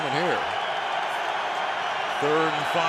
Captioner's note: cheering